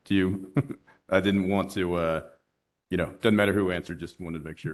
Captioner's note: laughter